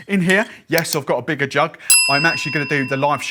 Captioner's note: bell dings